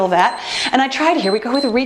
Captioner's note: timer beeps